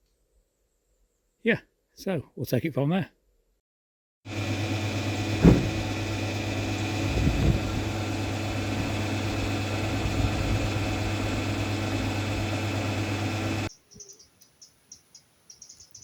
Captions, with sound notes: Yeah! So we'll take it from there! [Petrol pump whirring]